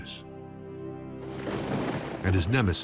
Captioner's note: thunder roars